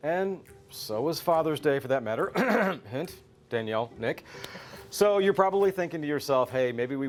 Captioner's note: clearing Throat